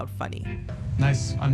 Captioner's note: soundbite of tv show, "somebody somewhere"